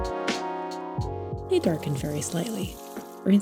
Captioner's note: water sounds